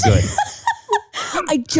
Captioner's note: laughing